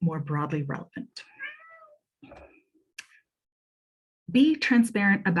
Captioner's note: cat meows